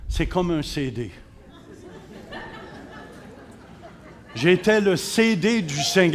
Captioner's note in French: rires